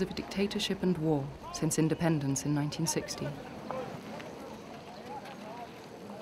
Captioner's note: men shouting